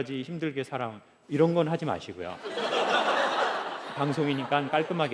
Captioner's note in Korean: 웃음